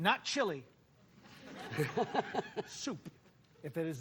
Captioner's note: laughter